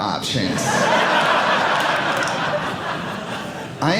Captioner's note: audience laughing